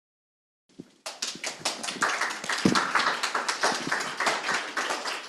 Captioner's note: crowd applauding